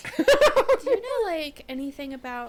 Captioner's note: laughing